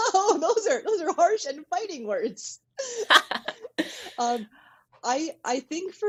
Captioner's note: laughter